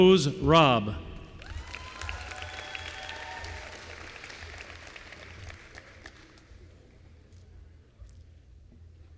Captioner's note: applause